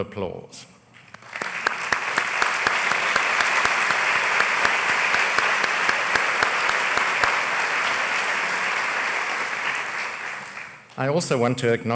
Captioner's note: applause